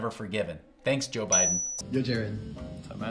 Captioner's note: bell ringing